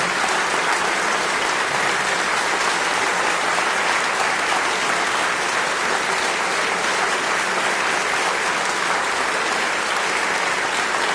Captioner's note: applause